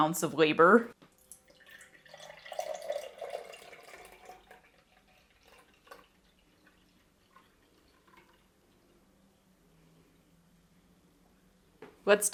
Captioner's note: pouring sound